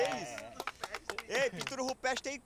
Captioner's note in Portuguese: todos aplaudindo